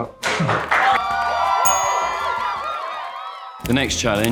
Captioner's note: audience cheers